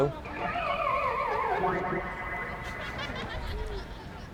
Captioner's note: buzzer squelches; crowd laughs